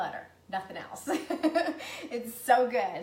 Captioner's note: laughs